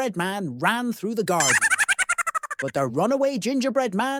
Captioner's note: high-pitched laugh